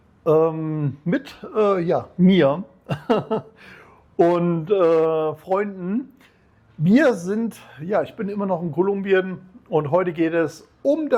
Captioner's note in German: gelächter